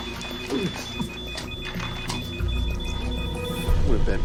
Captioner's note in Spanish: pitidos de máquinas médicas